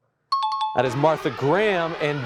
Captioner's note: alarm blaring